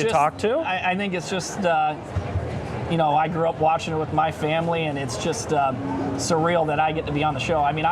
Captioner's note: French